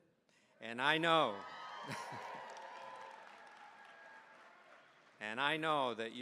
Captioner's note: cheering, applause